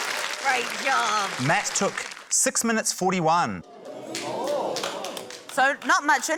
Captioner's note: audience exclaims, scattered applause